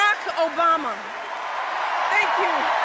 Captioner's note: applause